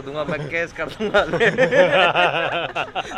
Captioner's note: laughing